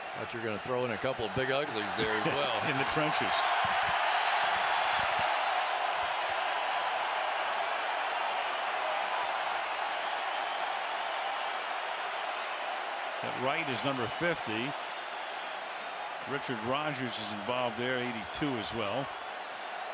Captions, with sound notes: I thought you're going to throw in a couple of "big uglies" there as well. In the trenches. [crowd cheering] That right is number 50. Richard Rodgers is involved there, 82 as well.